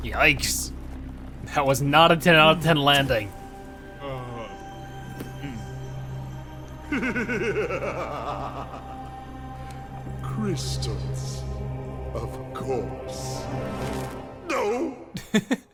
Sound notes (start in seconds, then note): 6.9 laughing